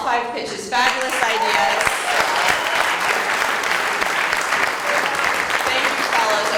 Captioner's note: applause